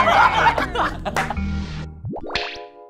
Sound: laughing hard

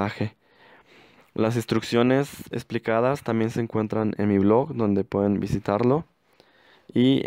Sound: spanish

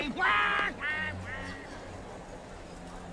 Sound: crowd chatter; squawking, departing

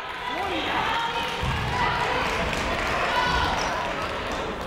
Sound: people shouting in the crowd

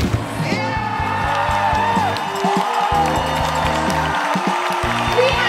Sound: applause

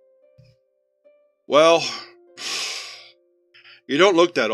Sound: Dr. Taggart sighs

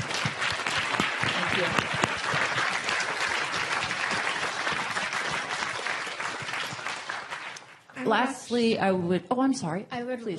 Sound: applause

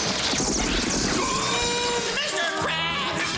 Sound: screaming

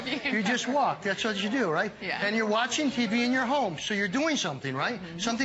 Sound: laughter

